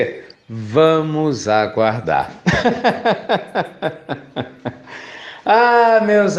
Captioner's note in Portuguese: Risos